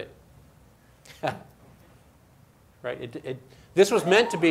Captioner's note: laughs